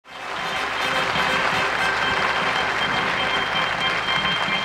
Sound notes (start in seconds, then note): 0.0 audience applauding; 0.1 cheerful music